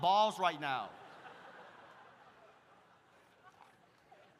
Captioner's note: audience laughs